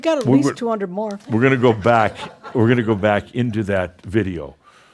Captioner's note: a few chuckles